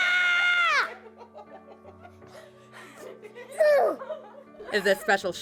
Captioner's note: screams; laughter